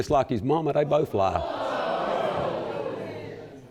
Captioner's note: audience exclaiming